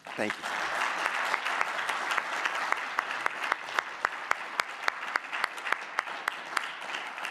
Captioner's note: audience clapping; clapping